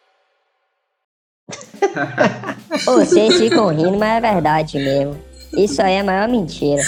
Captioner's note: everyone laughing at a previous joke